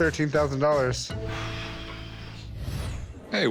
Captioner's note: exhales sharply